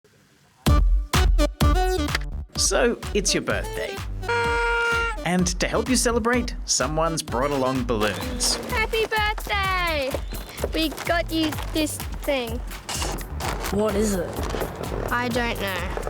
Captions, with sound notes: So, it's your birthday. (BLOWS) And to help you celebrate, someone's brought along balloons. Happy Birthday! We got you this thing. What is it? I don't know.